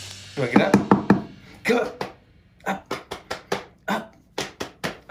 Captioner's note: tapping; patting thighs